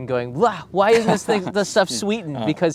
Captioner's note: laughs